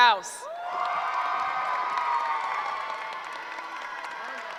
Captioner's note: cheering